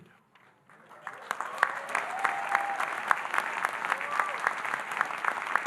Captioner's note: audience applauding and cheering